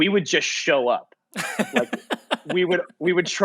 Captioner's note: laughing